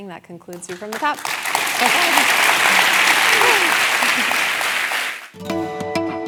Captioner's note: applause